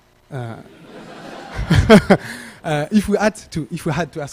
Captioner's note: laughter